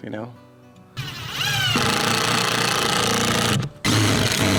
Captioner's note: drilling